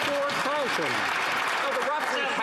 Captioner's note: some Applause